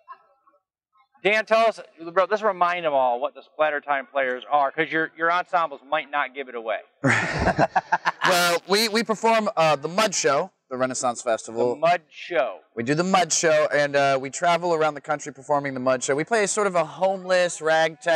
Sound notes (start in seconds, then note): 7.0 both laugh